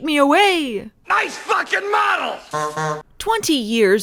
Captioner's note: honking